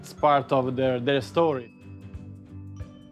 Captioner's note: speaking Italian